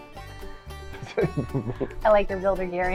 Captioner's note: laughs